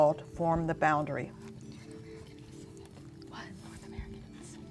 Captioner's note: whispering